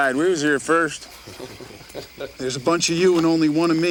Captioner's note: gang members chuckle